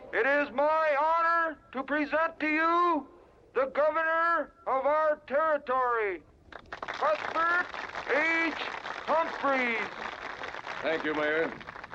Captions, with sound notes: It is my honor to present to you the governor of our territory (crowd applauding) Cuthbert H. Humphrey. - Thank you mayor.